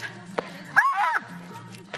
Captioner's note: screaming